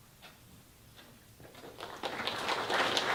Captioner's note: applause